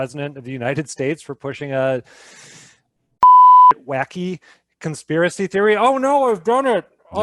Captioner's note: beep